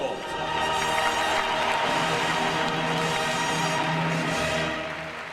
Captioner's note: crowd applauds